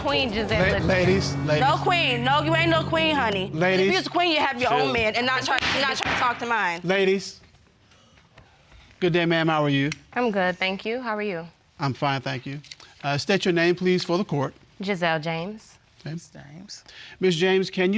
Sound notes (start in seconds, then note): 0.0 audience gasping; 5.6 judge banging gavel